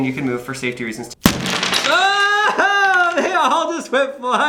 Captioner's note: pieces scattering